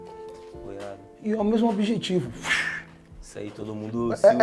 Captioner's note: makes whooshing sound